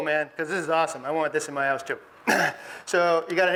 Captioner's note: clears throat